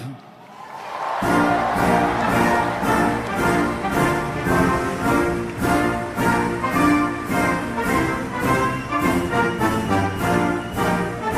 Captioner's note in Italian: Applauso